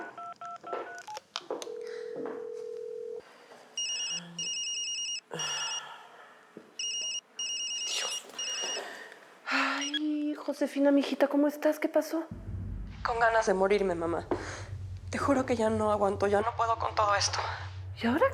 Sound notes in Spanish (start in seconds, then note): 1.6 sonido al marcar; 1.7 la otra línea timbra; 6.8 suena el celular